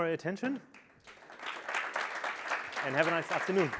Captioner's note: applause